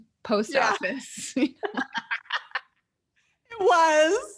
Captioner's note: both laughing